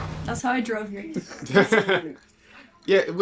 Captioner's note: laughs